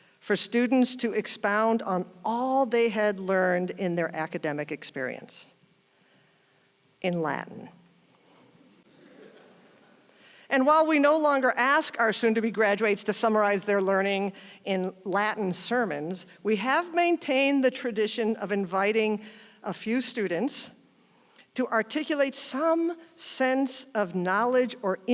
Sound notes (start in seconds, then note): 8.8 audience chuckles